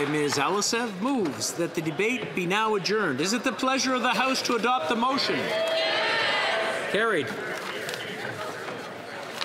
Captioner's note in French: voix de l'interprète